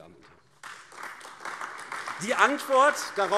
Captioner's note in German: Beifall AfD